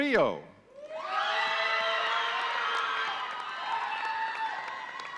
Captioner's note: audience cheering